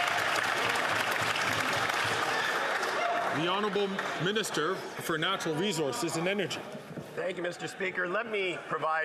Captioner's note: some Applause